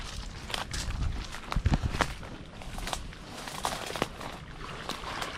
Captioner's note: twigs snapping underfoot